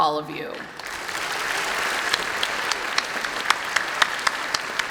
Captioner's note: applause